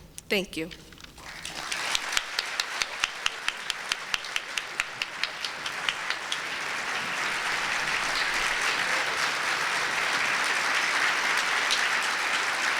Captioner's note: applause